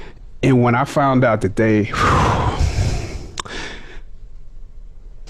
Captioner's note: heavy sigh